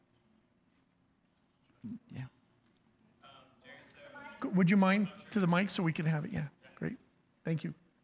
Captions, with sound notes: - Yeah. (student speaks off-microphone) - Would you mind, to the mic, so we can have? Yeah, great, thank you.